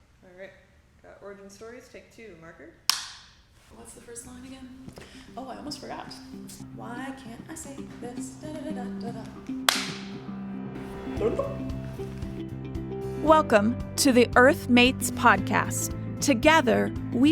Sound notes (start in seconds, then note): 2.8 snap; 9.6 clap